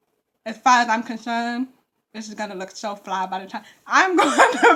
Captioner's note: laughs